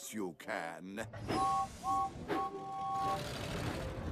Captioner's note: toot-Toot-Toot